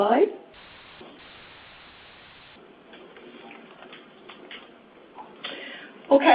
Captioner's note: silence